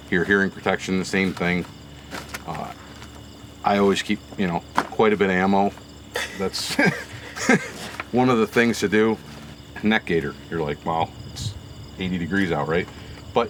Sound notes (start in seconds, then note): 6.1 laughs